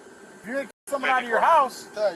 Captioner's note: radio chatter